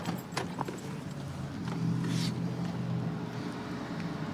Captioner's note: distant traffic hum